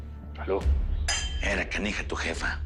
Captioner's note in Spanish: Chocan las copas